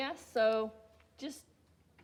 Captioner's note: none